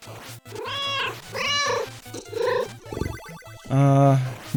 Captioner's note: meow